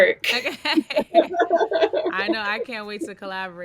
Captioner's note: laughing